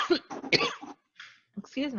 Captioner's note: coughing